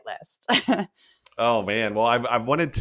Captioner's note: laugh